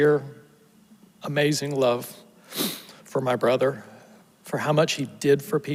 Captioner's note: sniffles